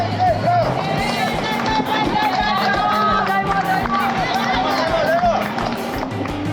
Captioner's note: cheering